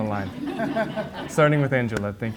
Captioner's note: audience laughs